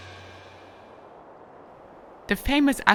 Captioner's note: wind howling